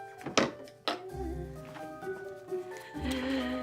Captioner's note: palette tapping